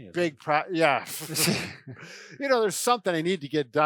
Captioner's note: laughs